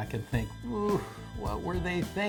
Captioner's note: groans